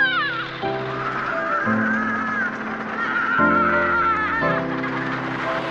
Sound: shrieks; shouting and laughing

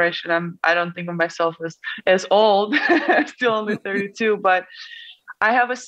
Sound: laughs

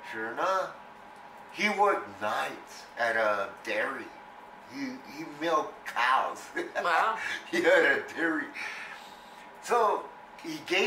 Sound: laughs

